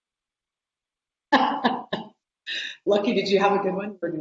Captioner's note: laughing